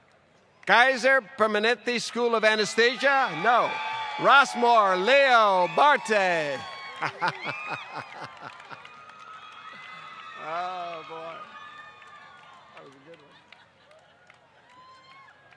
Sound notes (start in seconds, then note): 7.0 laughter